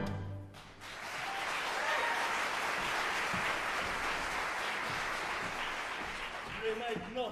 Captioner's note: applause